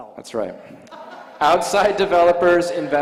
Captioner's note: laughter